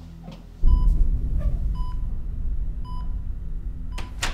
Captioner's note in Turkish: Nabız Sesi